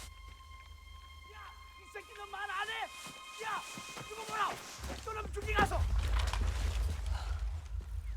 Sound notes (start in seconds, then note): 1.6 continuous Yelling in Korean